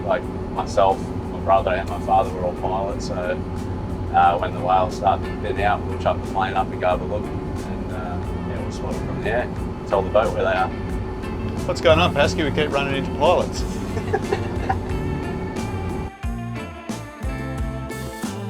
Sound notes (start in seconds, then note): 13.7 chuckling; 15.6 laid back music